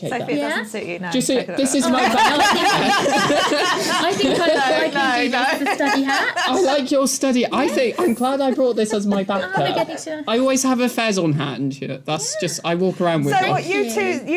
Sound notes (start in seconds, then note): 1.6 laughing